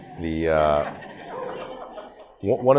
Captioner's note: audience laughs